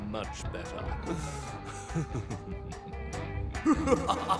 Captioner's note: laughs creepily; laughs; evil laughter echoes